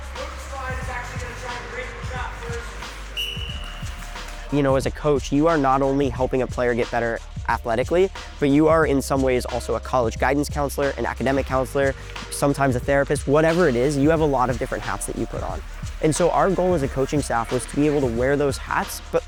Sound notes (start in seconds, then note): 3.1 whistle blow